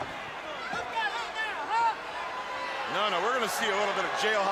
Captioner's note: crowd chatter